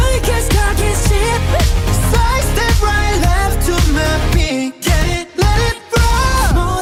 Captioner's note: heartbeat